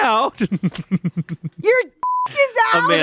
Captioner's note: laughing